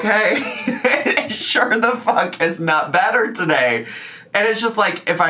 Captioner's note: laughs